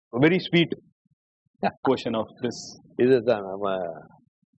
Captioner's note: none